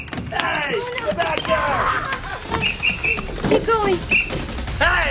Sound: whistles

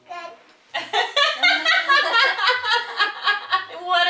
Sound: laughing

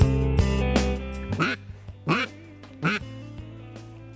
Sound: duck call

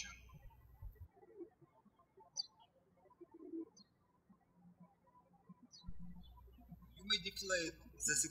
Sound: birds chirping

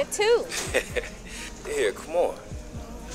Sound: chuckles

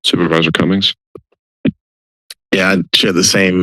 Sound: silence

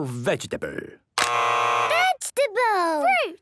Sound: both buzzing

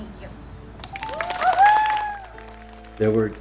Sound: clapping and cheering

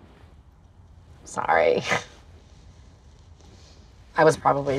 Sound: chuckles

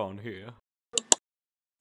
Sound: click

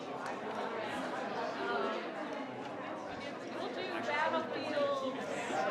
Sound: crowd chattering continues

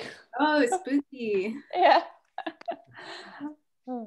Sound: chuckles; laughs

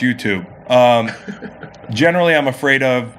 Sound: laughs

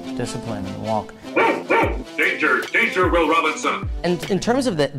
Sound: dog barks

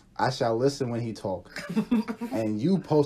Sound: laughter

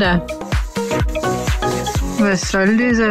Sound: scratching noises

